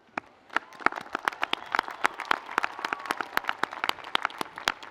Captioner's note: audience applauds